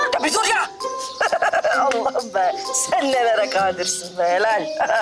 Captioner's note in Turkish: Gülme sesi